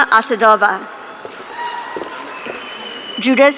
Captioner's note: audience cheering